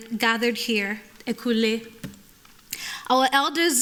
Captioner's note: speaking yoruba